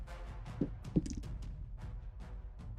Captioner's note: dice roll